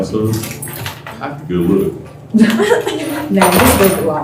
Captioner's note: laughter